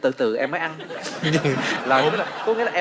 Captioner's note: laughing